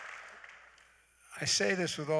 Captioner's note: applause